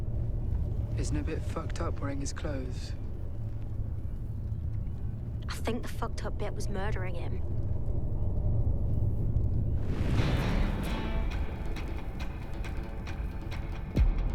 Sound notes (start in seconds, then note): 7.1 rumbling intensifies; 10.2 upbeat rock